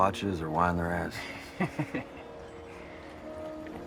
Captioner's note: chuckles